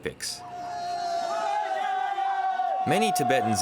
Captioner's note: shouting